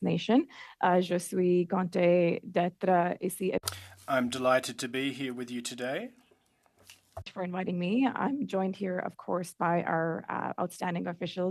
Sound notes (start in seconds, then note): 5.8 speaking French